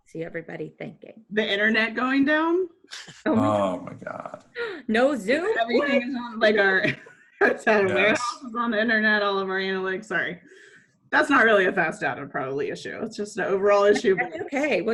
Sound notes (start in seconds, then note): 7.3 laughs